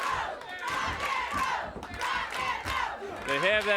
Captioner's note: audience chants